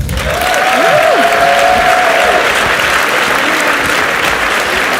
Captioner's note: audience cheers and applauds